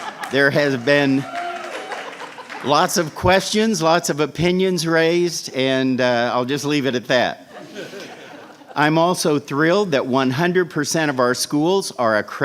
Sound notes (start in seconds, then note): 0.0 laughter and applause; 7.4 laughter